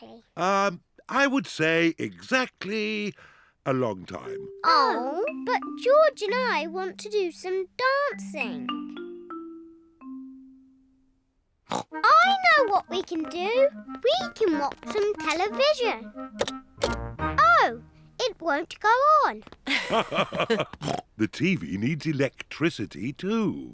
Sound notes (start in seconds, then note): 11.7 snorts; 19.6 both laugh